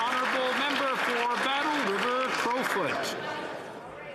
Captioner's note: some Applause